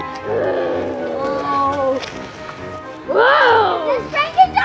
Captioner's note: Frankenstein roars